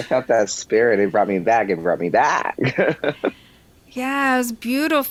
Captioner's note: laughs